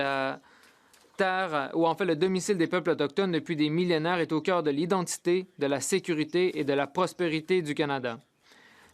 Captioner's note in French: voix de l'interprète